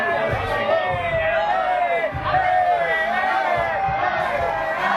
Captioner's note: chanting